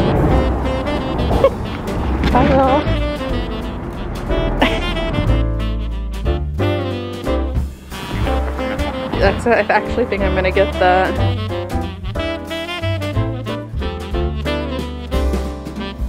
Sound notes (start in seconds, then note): 0.2 jazzy Christmas music; 4.4 laughing